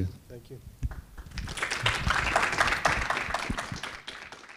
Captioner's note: attendees applauding